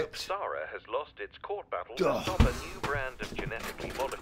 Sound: radio Announcer

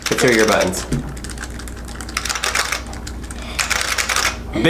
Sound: keys quietly clicking; keys clacking loudly

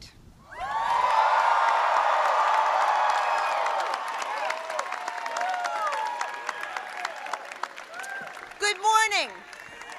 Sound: applause

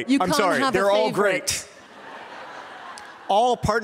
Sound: laughter

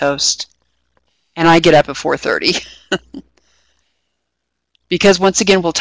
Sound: laughing

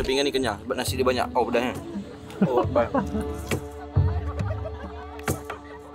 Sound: laugh

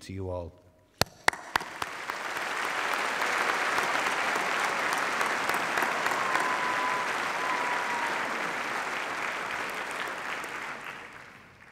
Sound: applause

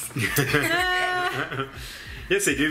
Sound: laughing

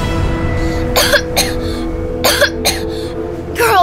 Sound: coughing

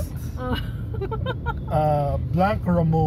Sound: heartfelt laugh

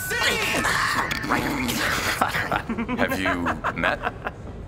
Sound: both laugh

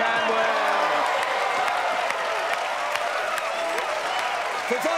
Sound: cheers and applause

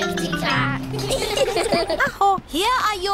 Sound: all giggle

